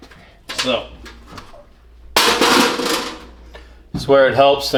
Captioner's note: crash